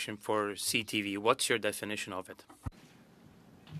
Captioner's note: speaking French